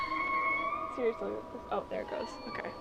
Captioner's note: locks squeaking